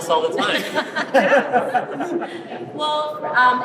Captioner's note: laughing